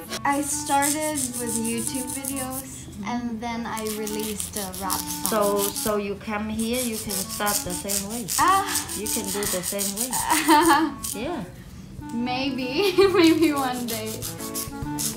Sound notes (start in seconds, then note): 10.4 laughs